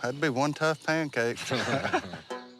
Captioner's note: laughter